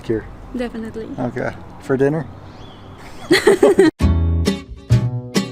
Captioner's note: laughs; upbeat music